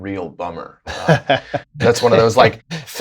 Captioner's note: laughter